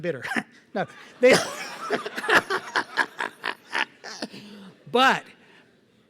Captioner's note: laughter